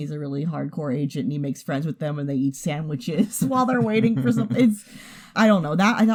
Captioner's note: chuckles